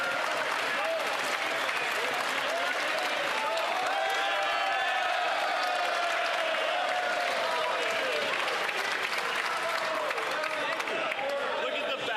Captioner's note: some Applause